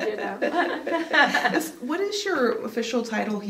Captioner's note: both women laughing